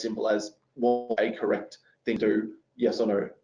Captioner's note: audio distorts